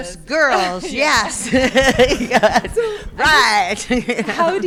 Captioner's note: laughing